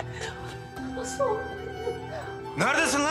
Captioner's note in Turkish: Ağlıyor